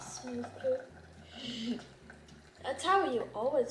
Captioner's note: giggles